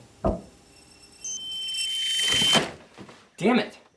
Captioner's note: electronic screeching